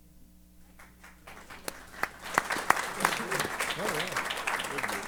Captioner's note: applause